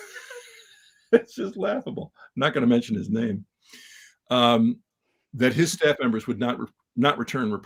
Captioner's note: laugh